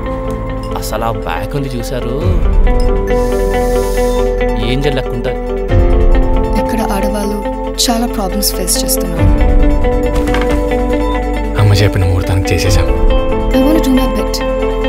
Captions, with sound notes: You've got to see her back! [gasps] She looks like an angel. The women here are facing a lot of problems. We've done it in the auspicious time set by mother. I want to do my bet.